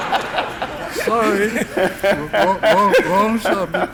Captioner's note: laughing